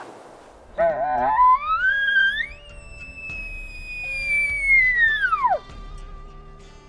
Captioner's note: calling; lively music continues